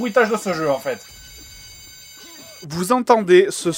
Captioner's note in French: bruit de sirène d'alarme